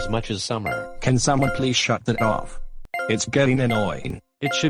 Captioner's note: beeping; beeping